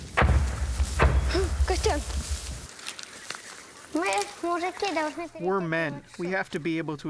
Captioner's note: through translator